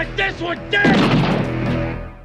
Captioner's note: gunshot